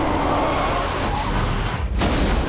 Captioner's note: tires squeal